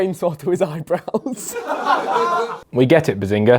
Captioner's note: laughs; audience laughs